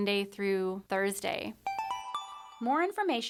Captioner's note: chime